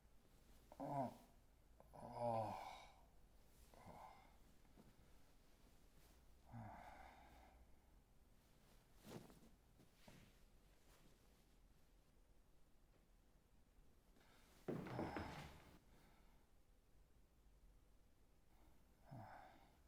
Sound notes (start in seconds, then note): 1.8 groans